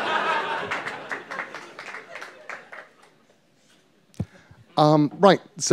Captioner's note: laughter and applause